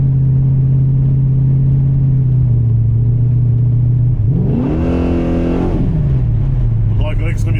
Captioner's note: engine revving